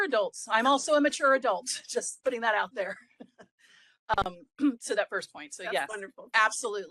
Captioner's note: laugh